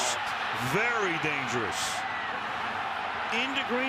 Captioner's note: cheering